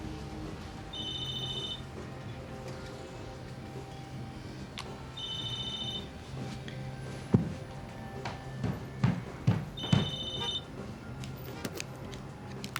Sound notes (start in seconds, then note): 0.9 cell phone ringing